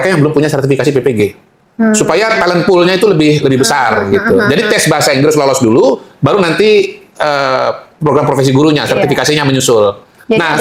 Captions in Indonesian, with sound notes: yang belum punya sertifikasi PPG supaya talent pool-nya itu lebih lebih besar gitu. Jadi, [tertawa] tes bahasa Inggris lolos dulu baru nanti ee program profesi gurunya, sertifikasinya menyusul.